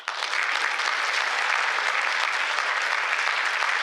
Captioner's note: applause